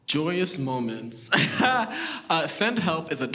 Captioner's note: laughs